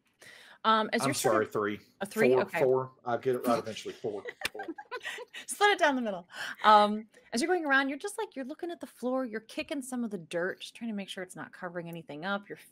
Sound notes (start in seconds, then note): 4.9 group laughing